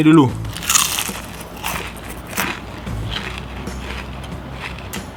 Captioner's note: super crunchy sound 😬😬